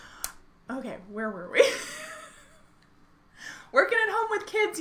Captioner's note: laughs